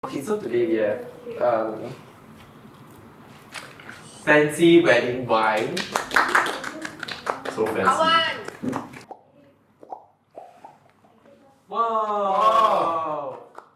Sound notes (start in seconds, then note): 5.6 applause; 9.7 makes popping noises